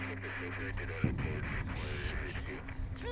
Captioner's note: radio chattering